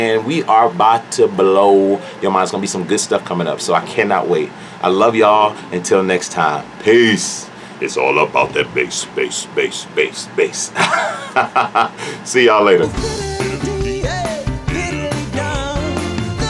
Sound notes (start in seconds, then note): 10.7 laughs; 12.8 upbeat music